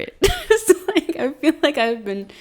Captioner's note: laughing